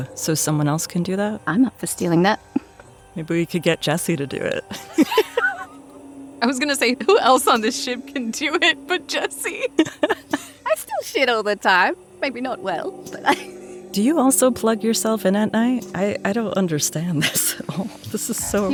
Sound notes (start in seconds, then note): 4.7 chuckles